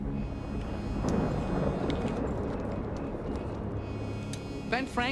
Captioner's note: thunder rumbles